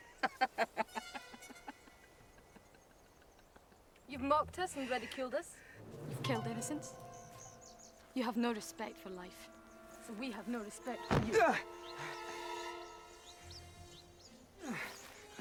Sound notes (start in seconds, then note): 0.2 Eric laughs; 11.6 Eric yells; 12.4 dramatic music